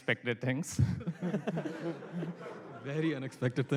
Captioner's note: laughter